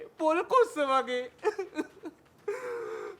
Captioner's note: resumes crying